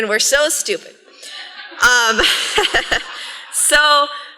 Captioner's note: laughter